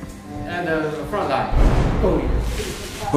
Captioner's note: bang